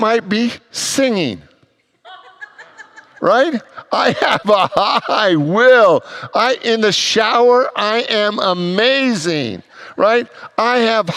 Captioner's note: congregants laugh